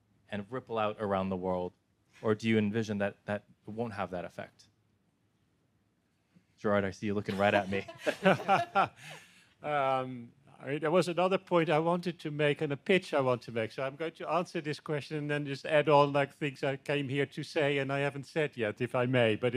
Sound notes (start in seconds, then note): 7.3 everyone laughing